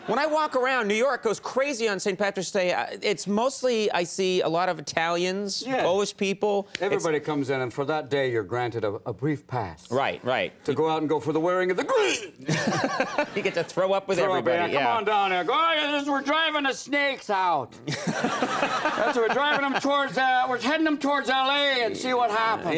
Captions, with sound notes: When I walk around, New York goes crazy on St. Patrick's Day. It's mostly, I see, a lot of Italians, Polish people. Everybody comes out and for that day, you're granted a brief pass. Right, right. To go out and go for the wearing of the- (Robin makes vomit sound) (audience laughs) You get to throw up with everybody, yeah. Throw up and yeah, "Come on down, "we're driving to Snake's house." (audience and Conan laugh) "We're heading him towards LA and see what happens."